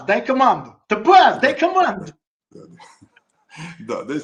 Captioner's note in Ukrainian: сміх